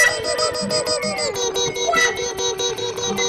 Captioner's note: dwarves chattering